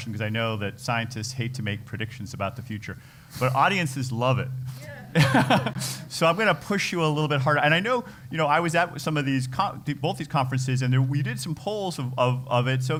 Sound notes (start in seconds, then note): 5.0 laugh